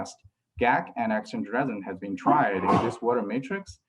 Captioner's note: sneeze